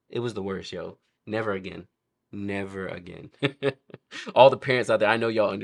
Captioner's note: laughs